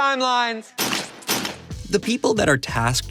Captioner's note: gunshots